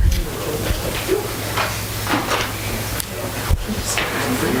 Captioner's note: people chattering